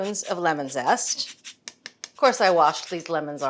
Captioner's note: lemon scraping